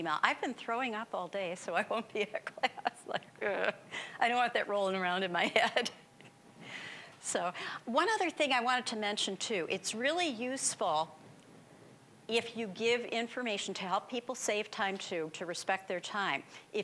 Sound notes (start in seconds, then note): 1.8 laughing